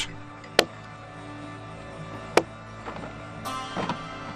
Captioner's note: ax thudding